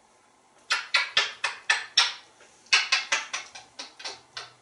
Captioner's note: kissing sounds